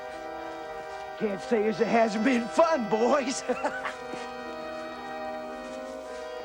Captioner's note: laughs